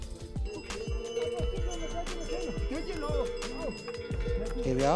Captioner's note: cow bells ringing